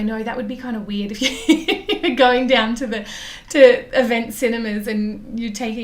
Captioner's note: laughs